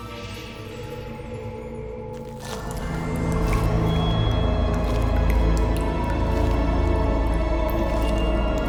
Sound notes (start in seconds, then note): 2.2 water drips; 3.2 eerie orchestral music